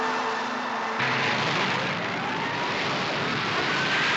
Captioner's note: zooming